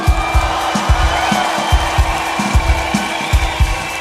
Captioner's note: audience: cheers